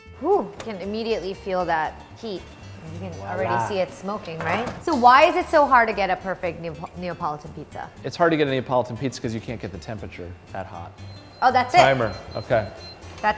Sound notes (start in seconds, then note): 10.6 oven beeping